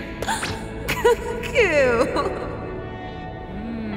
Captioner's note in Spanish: Risas